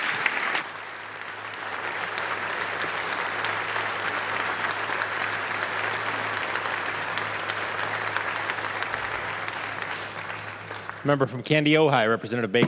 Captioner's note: applause